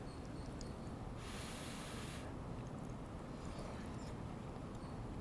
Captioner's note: blows air